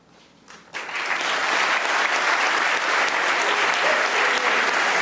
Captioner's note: audience applauding